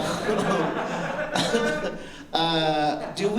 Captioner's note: laughter